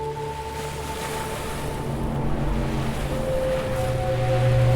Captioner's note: waves crashing